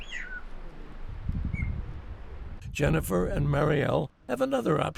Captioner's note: bird calls